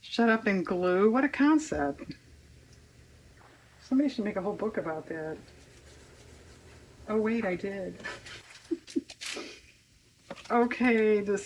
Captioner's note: laughs